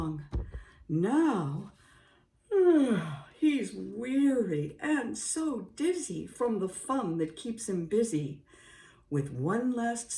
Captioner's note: yawn!